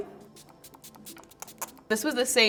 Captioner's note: bottle spraying